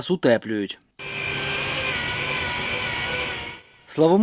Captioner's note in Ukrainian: звуки техніки